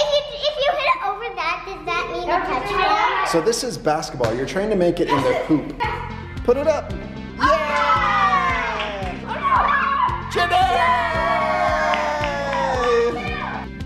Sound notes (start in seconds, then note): 7.4 all cheering